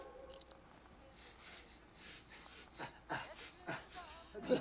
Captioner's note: sniffing